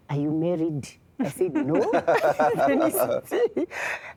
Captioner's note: laughter